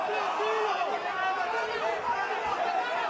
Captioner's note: cheers